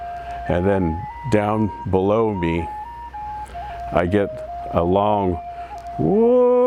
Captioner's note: shouts